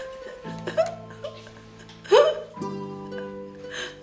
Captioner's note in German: Sie weint laut